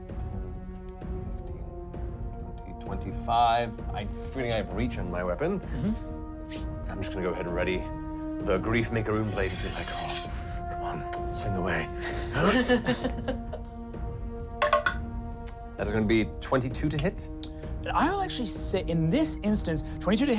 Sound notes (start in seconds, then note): 9.8 metallic clinking; 12.4 laughing; 14.9 rolling dice